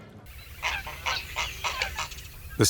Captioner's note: birds squawking